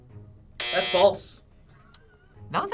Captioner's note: buzzer